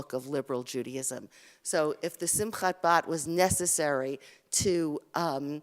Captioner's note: Hebrew